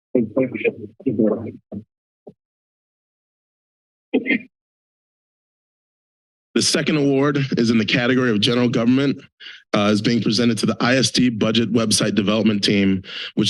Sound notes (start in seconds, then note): 1.5 silence